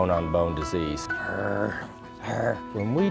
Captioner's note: growling